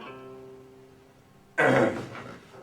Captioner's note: clearing throat